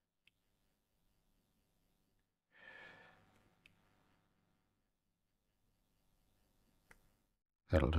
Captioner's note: silence